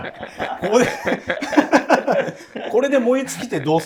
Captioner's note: laughing